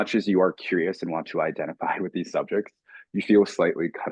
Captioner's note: chuckling